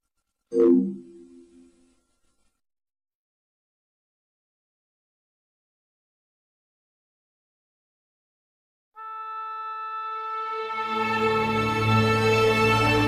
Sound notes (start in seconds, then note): 3.3 silence; 9.0 orchestral music tuning